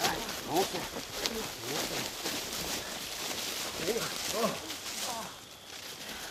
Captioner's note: leaves rustling; grunt